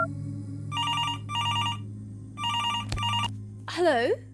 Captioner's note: phone ringing